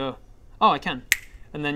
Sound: snap

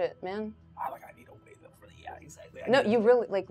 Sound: speaker speaks in a low tone

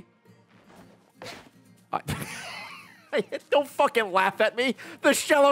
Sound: laughs

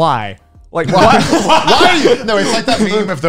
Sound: men laughing

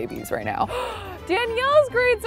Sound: gasps

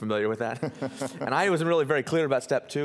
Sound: laughing

